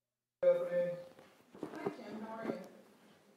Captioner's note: murmuring